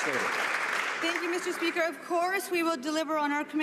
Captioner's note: some Applause